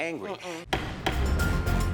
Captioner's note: gavel pounds twice